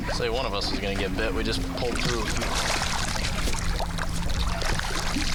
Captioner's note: water sloshing